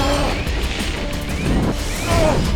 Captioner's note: flames approach; flames rage, CYRUS shrieks